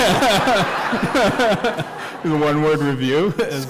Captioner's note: laughter